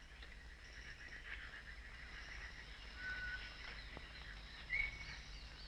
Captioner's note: ambient nature noises